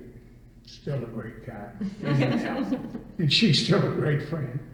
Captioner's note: all laugh